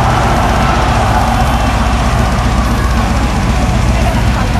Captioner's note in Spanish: Ovación